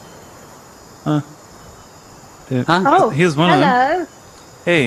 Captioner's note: laughs